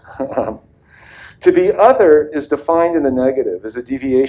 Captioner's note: laughs